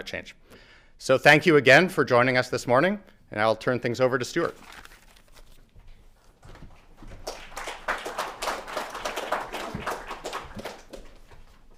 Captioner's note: applause